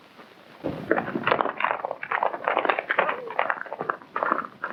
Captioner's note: hooves clomping